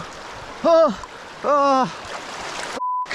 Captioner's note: groaning